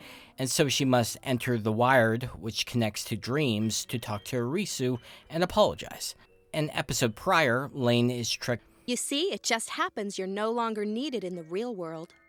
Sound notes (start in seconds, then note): none